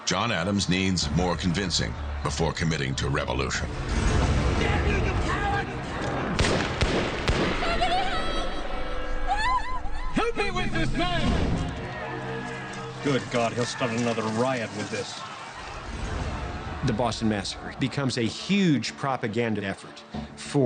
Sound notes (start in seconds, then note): 6.0 gunshots banging; 7.7 woman screams